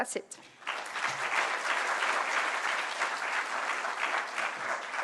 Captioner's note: applause